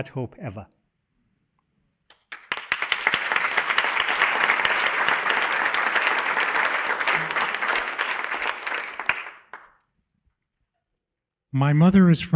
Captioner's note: applause